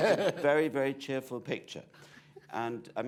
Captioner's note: laughter